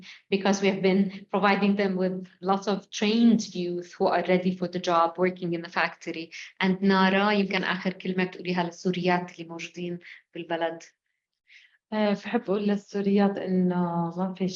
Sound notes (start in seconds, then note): 7.9 speaking arabic; 12.9 speaking arabic